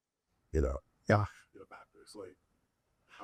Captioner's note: speaks faintly